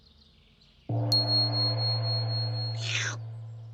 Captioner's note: gong reverberates, bell dings